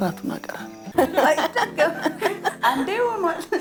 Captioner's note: laughter